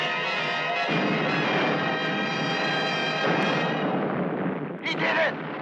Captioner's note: explosion booming